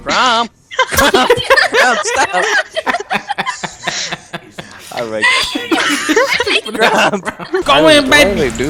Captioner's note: laughter